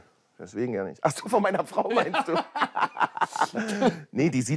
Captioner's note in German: Lachen